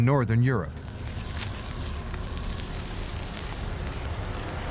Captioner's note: wind howling and crackling ice